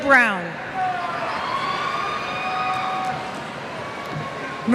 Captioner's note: cheers